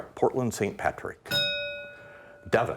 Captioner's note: bell ringing